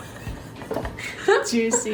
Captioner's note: laughing